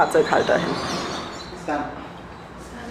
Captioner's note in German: auf Schweizerdeutsch